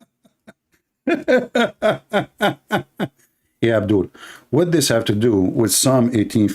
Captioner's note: Ketawa